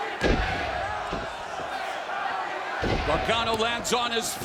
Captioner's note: crowd chanting; boots thumping